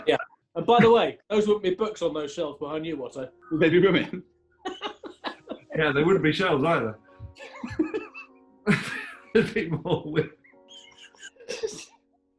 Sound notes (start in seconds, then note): 4.6 giggling; 7.3 giggling; 10.4 giggling